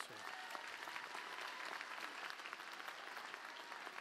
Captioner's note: applause